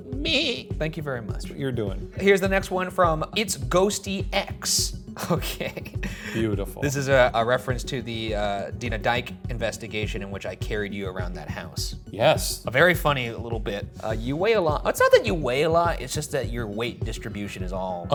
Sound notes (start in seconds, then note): 5.2 laughs